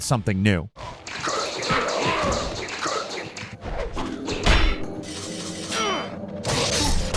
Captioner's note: fighters grunting; weapons clashing